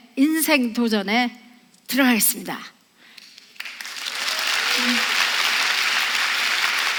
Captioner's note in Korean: 박수